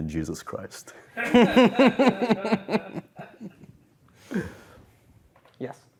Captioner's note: laughter